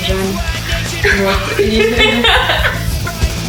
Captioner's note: both laughing